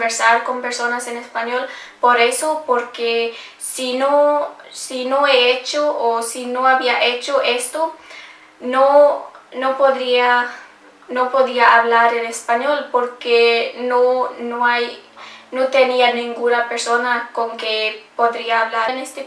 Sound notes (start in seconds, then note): 7.0 started talking to people en Español